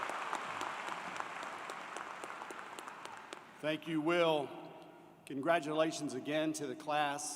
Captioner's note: applause